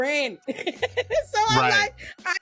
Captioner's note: laughs